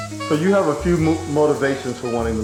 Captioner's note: voiceover